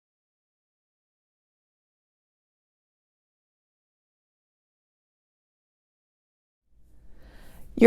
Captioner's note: silence